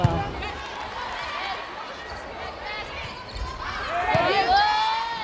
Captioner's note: players yelling